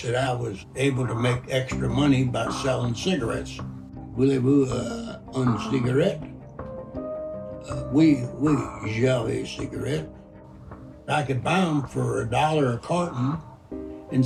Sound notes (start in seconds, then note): 8.0 speaking in French